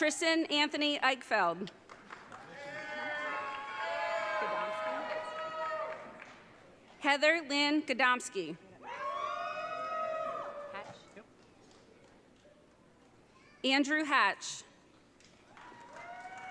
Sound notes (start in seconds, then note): 2.4 audience cheering; 8.9 audience cheering